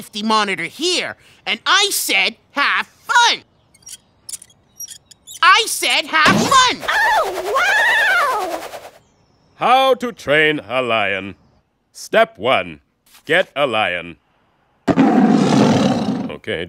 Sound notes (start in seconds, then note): 14.9 roars